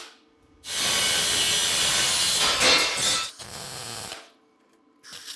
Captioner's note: saw buzzing; sparks hissing